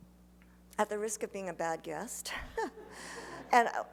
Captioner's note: laughs; laughter